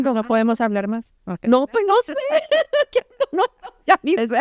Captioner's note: laughter